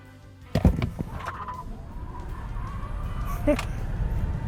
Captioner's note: air whooshing